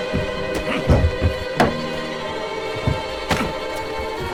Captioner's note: men scuffling